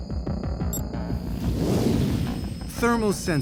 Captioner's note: beep; flames roaring